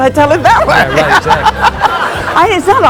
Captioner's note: laughing